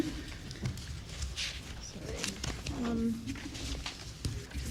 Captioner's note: papers rustling